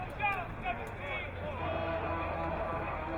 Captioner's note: crowd cheering